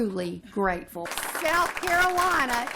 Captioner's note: applause